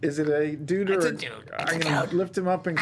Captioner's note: strangled